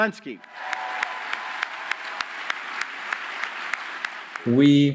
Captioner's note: audience applauding